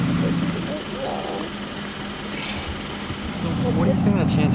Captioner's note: mother weeping